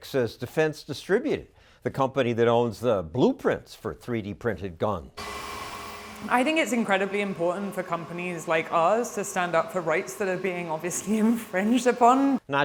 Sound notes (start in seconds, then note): 5.3 printer whirring